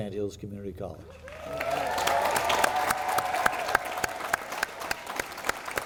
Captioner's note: audience cheering